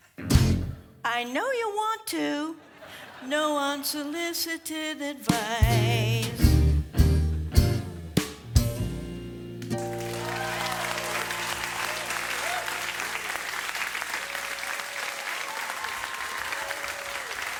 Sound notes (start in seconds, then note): 0.1 guitar strum; 10.2 audience applause